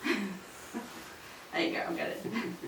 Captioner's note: laughs